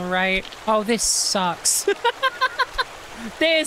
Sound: laughter

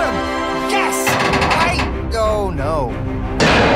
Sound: creaking

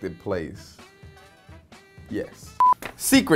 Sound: screen beeping

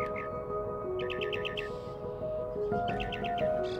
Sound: birds chirping

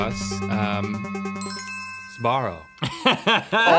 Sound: ding; laughing

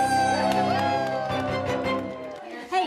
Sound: cheering

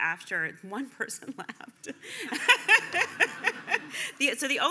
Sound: laughing

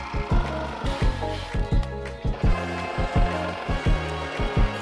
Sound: mellow chime music; power saw humming

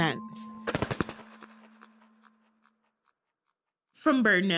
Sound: wing flaps SFX

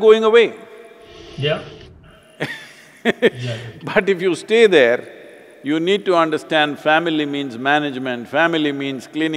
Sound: laughs

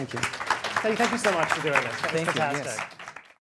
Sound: applause

